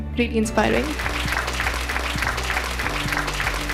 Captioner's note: applause